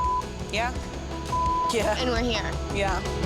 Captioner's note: beep